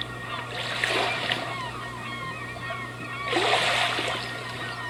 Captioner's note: beach soundscape